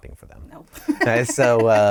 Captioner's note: laughter